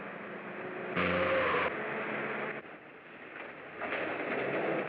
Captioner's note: tires screech